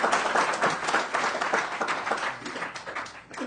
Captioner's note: applause